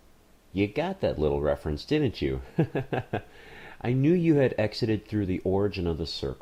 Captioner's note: laughing